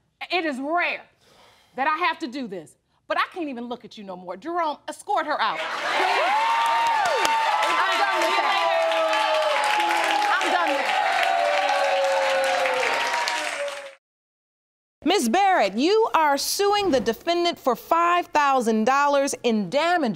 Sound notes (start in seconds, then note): 5.9 audience cheering